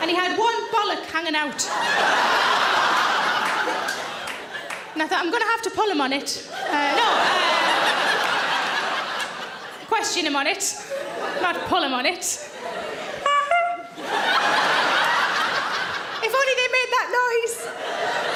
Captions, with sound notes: And he had one bollock hanging out. (audience laughing) And I thought I'm going to have to pull him on it. (audience laughing) Question him on it, not pull him on it. (Sarah honking) (audience laughing) If only they made that noise.